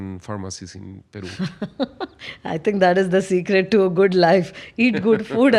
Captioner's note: laughs